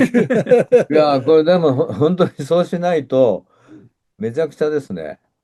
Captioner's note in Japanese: 笑い